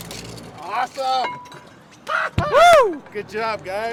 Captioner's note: clanking; whooping